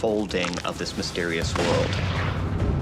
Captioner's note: gunshot